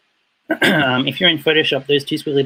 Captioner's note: clears throat